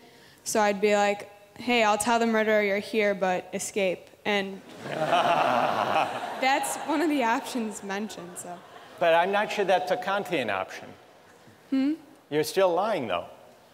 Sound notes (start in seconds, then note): 4.7 laughter